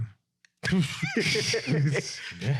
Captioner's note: laughing